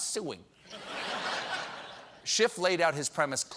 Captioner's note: laughter